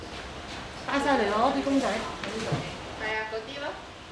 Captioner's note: Cantonese